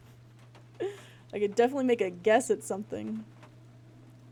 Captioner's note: laughs